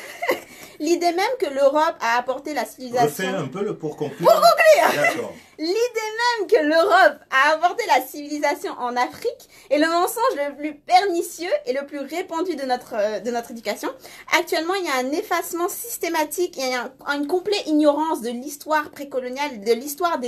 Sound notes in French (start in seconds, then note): 4.1 rire